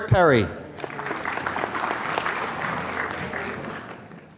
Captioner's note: applause